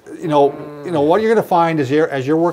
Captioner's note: groaning